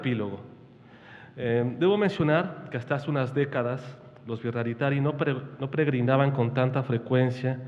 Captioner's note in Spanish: habla en wixárika